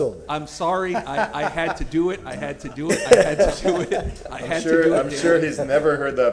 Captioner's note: laughter